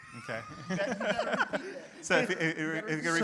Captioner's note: panelists laughs